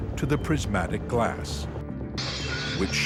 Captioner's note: glass shattering